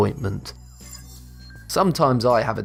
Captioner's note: futuristic ringing